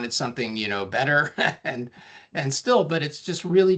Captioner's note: chuckling